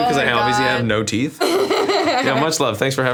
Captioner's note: laughs